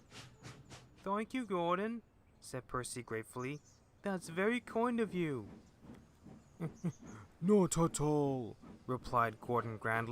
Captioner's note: chuckle